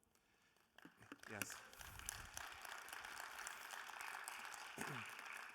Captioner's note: audience applauding